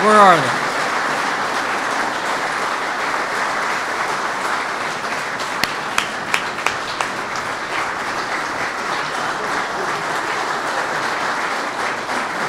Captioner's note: applause